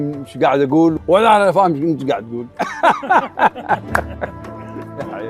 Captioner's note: laughter